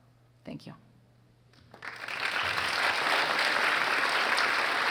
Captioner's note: audience applauds